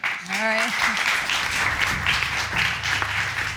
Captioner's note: audience applauds